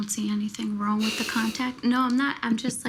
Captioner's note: scoffs